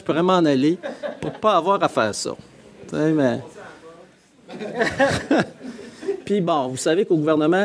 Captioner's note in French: rires dans la salle